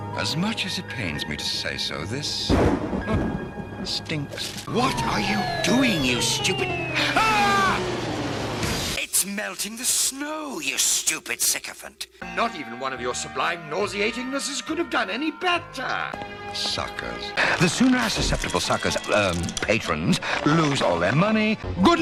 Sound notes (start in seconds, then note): 7.7 missiles explode